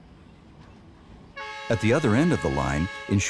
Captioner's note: train horn hooting